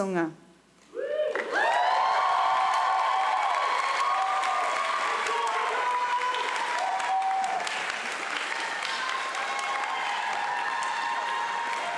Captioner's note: cheering and applause